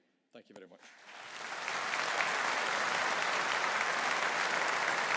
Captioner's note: audience applauding